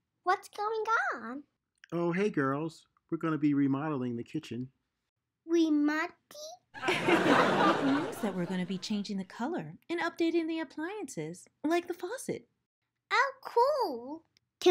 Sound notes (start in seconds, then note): 6.8 audience laughs